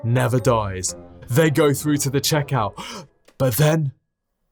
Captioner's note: gasps